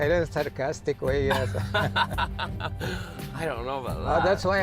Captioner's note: laughing